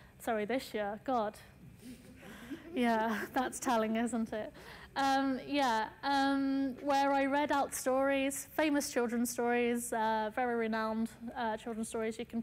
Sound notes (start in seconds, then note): 2.2 audience laughs